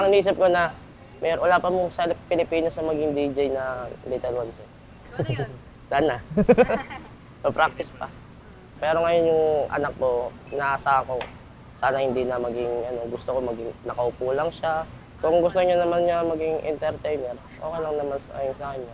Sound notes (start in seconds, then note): 6.2 laughs